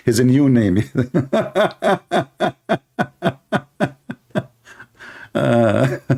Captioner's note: Ketawa